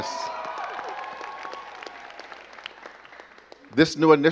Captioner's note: crowd cheering and clapping